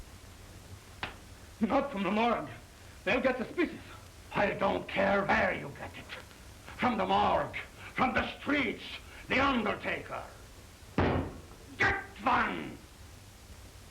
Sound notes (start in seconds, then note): none